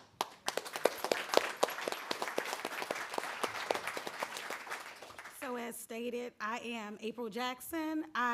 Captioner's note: applause